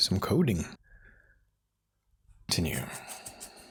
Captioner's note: silence